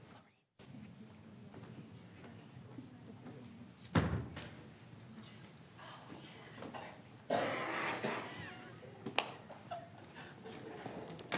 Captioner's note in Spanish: Aplausos